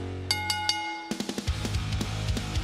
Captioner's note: bell ringing